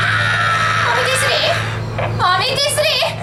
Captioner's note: ahhhhhhh!